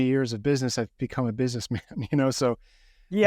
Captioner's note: chuckling